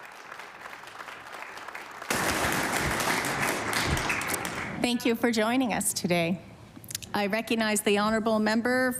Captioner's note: applause